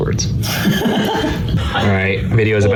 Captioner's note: laughs